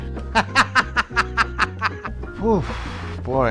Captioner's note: laughs